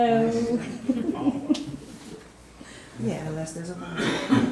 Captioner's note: all chuckling